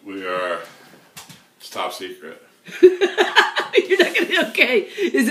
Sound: sound of woman laughing

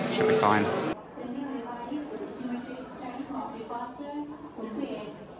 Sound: airport announcer calls

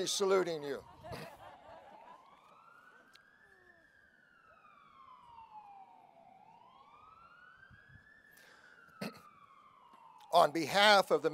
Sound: siren Wailing

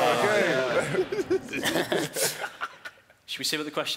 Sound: shouting; laughing

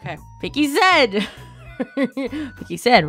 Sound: laughs

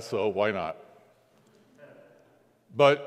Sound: congregants laughing

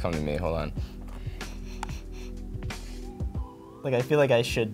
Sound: sniffs

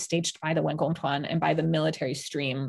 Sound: speaking in Mandarin

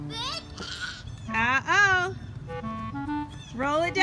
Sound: voiceover

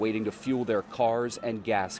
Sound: nats: water

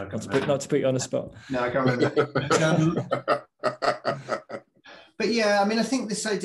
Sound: laughing

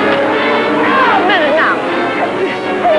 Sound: shouting

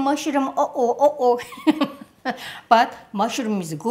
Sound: laughs

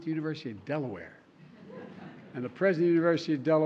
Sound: laughter

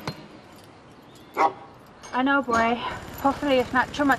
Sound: barking

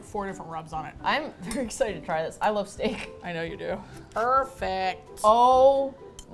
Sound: laughing

